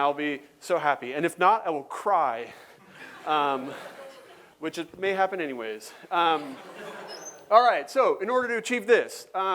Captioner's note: laughter